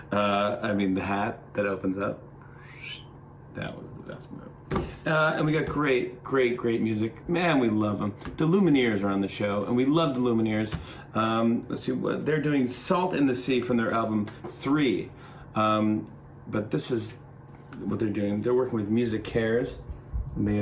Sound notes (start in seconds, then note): 2.7 whistles